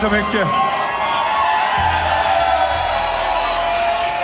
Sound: rhythmic clapping ends

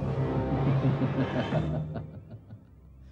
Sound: laughs

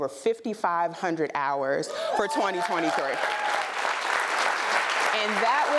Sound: applause

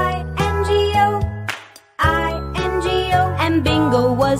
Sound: clap

